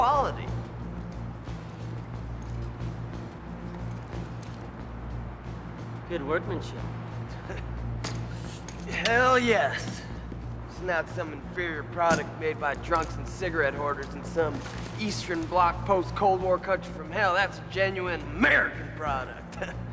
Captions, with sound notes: Of all the damn times for the 'Cuda to be in the shop! The 'Cuda. Gee, well, you think you're the only guy that can run down a guy? I'll let you know when and if we catch him. If? Ha! Bubba, this guy's toast. Now, watch out for him, watch him on these exits. I got him. (tires squealing) Watch him. Here we go. He's locked in. He's on radar.